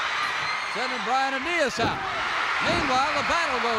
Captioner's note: crowd cheers